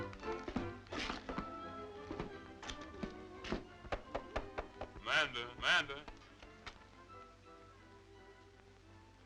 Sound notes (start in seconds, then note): 3.8 knuckles rapping